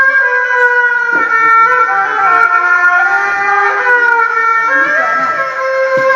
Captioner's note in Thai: เสียงหัวเราะ